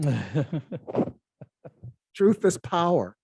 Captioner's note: laughs